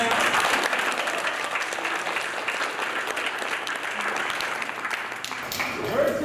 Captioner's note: applause